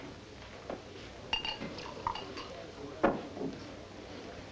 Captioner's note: glass clinks